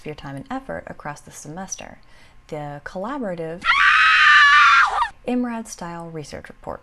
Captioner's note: scream